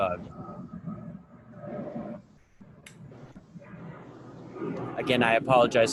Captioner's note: plane engine roaring